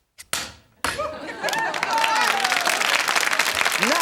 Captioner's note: crowd cheering